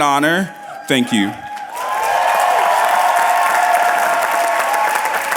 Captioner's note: cheers and applause